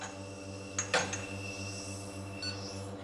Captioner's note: gentle whirring, beeping